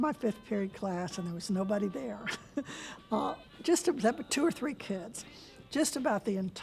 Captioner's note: laughs